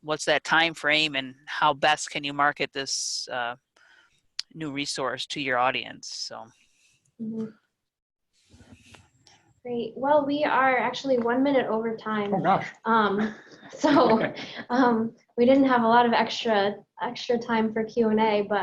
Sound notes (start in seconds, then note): 13.8 laughs